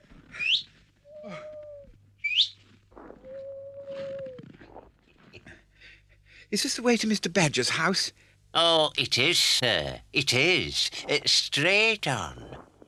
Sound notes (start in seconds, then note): 2.2 whistles